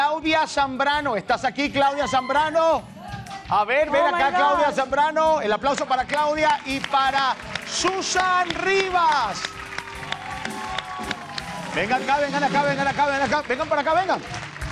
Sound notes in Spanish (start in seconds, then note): 8.6 Aplausos